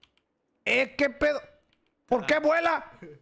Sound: in Spanish

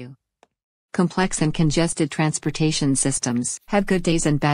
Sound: confident, voice-over

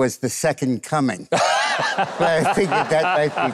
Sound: Mike laughs

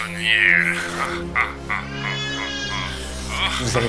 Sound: evil laugh

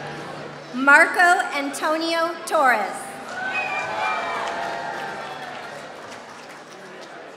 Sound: applause

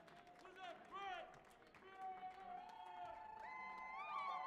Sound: fans cheering

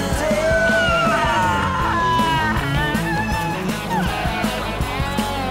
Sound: crying

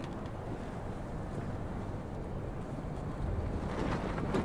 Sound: rustling

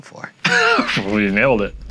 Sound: laughing

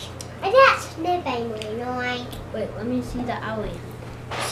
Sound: baby talk

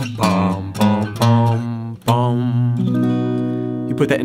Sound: humming; strings strumming

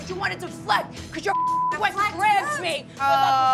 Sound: beep

